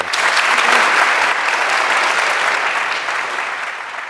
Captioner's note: applause